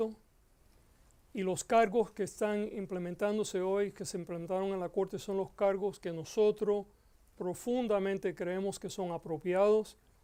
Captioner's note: Gascon speaking Spanish